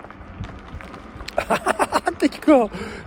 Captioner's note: laugh